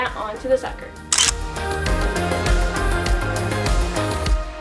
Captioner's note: camera click